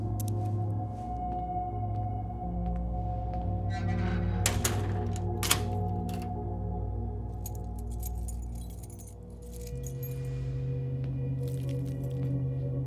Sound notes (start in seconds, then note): 0.2 suspenseful music continues; 3.6 door creaks; 3.9 door clatters; 7.4 keys clinking